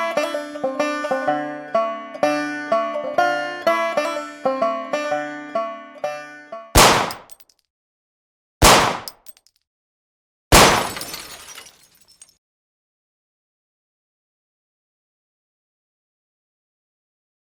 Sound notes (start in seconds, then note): 6.9 gunshot; 10.5 glass breaks